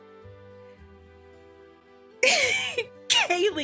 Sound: laughing

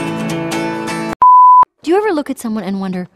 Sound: beep

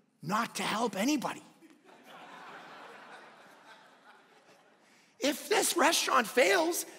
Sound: congregation laughing

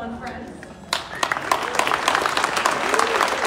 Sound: clapping

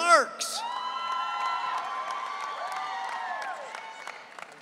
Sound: audience cheering

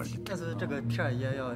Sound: archeologist speaks in foreign language

